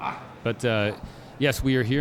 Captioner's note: grunting